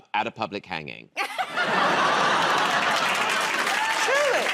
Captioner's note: laughter